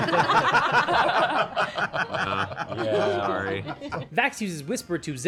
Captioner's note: laughter